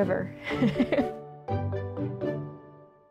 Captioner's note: laughs